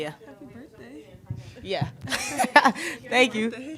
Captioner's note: laughs